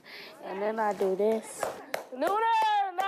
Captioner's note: hands clapping